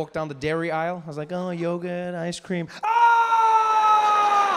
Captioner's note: screams